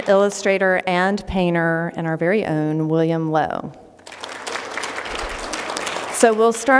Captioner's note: applause